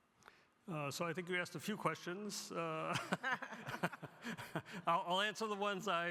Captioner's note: laughs